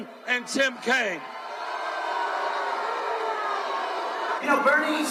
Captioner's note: crowd booing